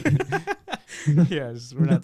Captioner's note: laughing